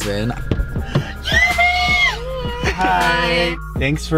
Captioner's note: screaming